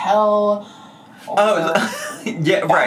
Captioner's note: laughs